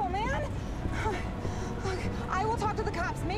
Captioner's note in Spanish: Respirando profundamente